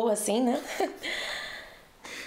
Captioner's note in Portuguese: risos